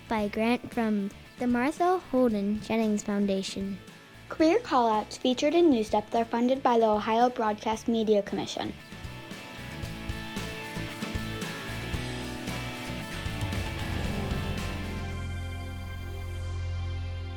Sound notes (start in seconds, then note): 9.0 upbeat music; 12.3 air whooshes; 14.7 bright music